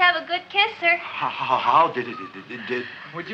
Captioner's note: stammering